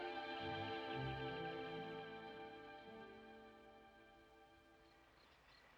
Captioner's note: insects chirping